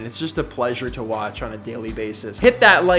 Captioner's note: none